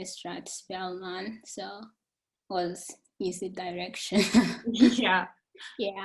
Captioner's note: chuckling